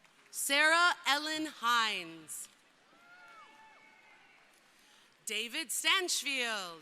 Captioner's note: crowd cheering